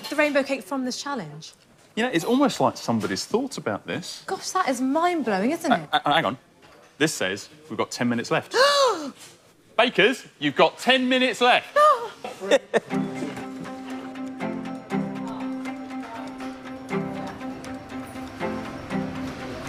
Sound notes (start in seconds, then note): 11.8 gasping; 16.8 excited music